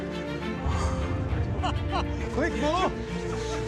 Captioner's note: laughs